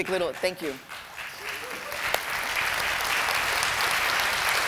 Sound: applause

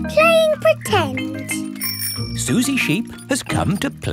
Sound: bicycle bell rings

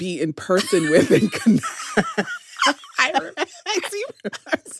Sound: laughter

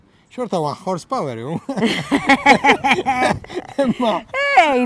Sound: both laugh

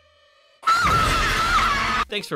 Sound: music builds; screams

